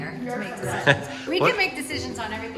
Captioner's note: laughing